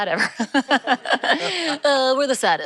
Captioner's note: laughter